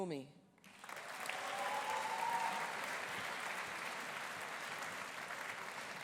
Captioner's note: audience applauding; audience cheering